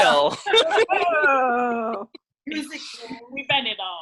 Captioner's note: laughing